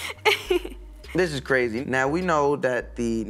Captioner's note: laughing